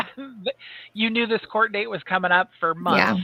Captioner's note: chuckles